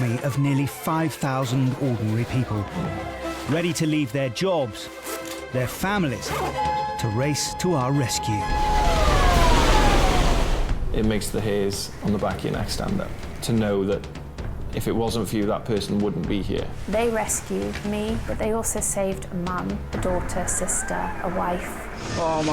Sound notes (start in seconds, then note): 8.4 water whooshing; 8.4 siren wailing